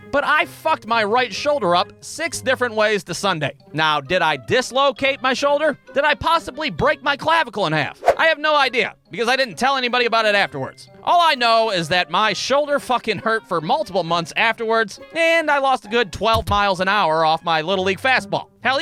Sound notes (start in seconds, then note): none